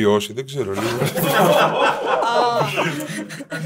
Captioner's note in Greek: γέλια